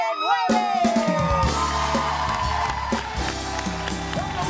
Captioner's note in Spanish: Ovación